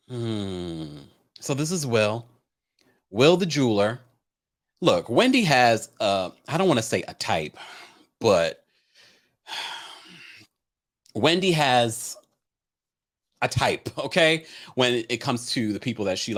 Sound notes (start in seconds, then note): 9.5 sighs